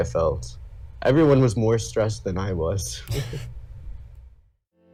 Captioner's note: sighs